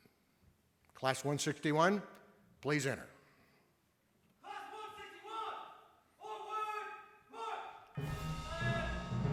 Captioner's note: shouting commands in background